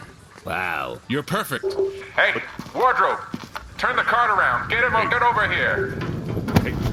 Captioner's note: over megaphone